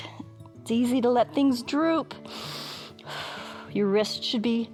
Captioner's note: inhales and exhales